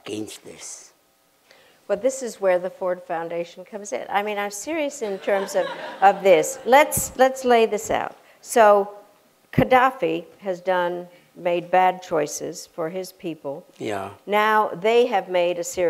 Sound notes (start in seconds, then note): 5.0 laughter